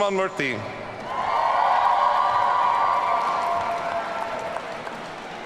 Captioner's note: audience cheering